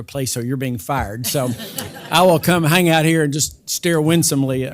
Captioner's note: laugh